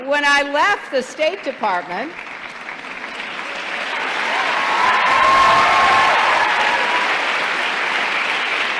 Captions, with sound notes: Department... >>(APPLAUSE)